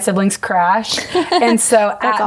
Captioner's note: laughing